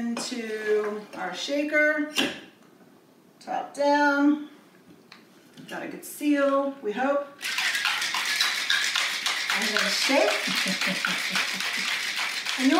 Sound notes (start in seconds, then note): 7.4 ice clanks; 10.2 laughs